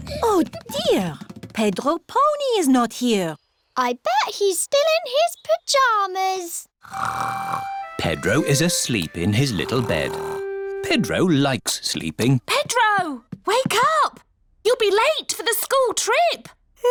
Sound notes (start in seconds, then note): 6.8 snores